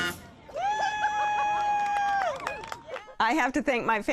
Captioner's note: jazz music playing; cheers and applause